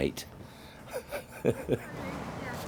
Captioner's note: laughs